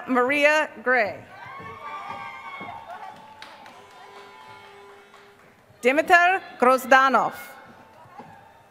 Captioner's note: applause